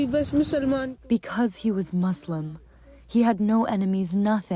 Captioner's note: through translator